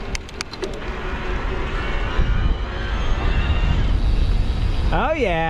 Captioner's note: clunking